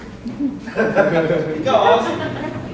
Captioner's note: audience laughing